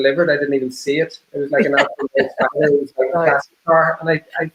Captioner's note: laughing drowning out speaker